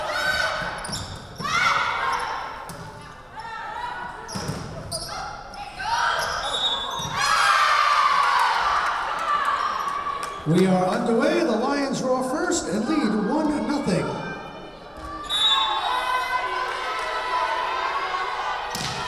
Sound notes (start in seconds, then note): 6.3 whistle blowing; 7.1 Lions cheering; 15.2 whistle blowing